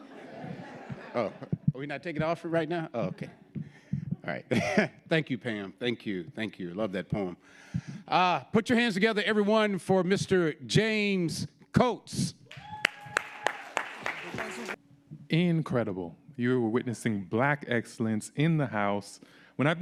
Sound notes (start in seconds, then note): 0.0 audience laughing; 12.5 audience applauding